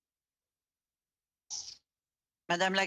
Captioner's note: speaking French